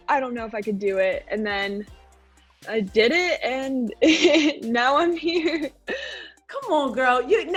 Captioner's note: laughing